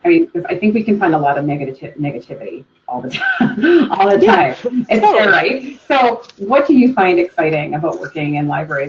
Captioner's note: laughs